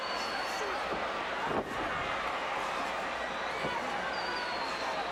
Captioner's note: crowd chattering